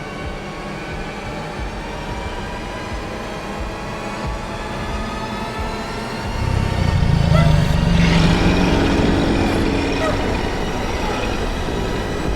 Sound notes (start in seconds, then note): 8.0 creature roaring